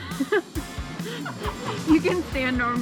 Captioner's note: laughing